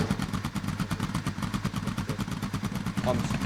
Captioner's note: engine sputtering